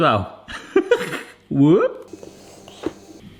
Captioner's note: laughs